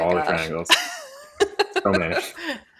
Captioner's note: laughs